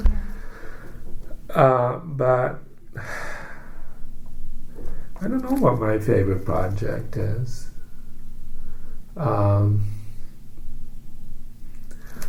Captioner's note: sighs